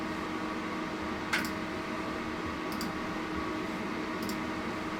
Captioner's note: computer fan whirring